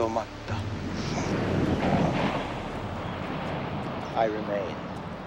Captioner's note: waves crashing